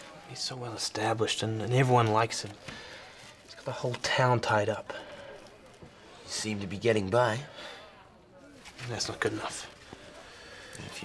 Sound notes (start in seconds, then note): none